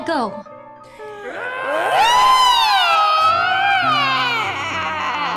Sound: tree-people screeching

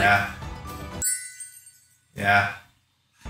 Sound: chimes tinkle

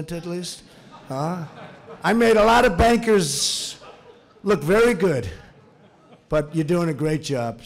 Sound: laughter

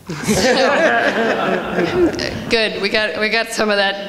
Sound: audience laughing

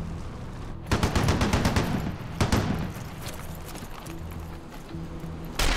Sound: rapid gunfire exploding; gunfire exploding

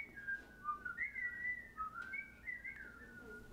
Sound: sound of people whistling inside the house

